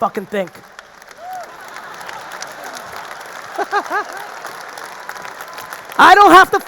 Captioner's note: audience applauding; audience laughing